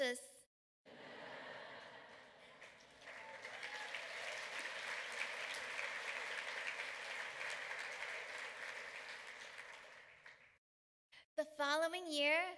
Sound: laughter, applause

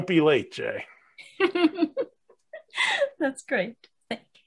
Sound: laughing

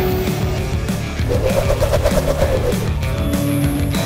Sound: hoverboard whirring

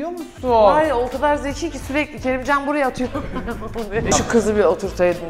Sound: laughs

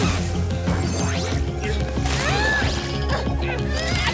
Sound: grunting

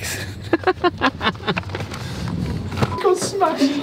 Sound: laughing

